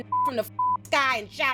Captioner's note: beep